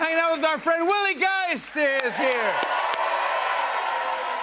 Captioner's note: cheers and applause